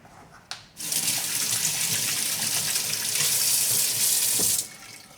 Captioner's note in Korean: 수돗물 흐르는소리